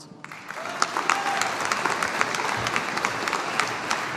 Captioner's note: audience applauding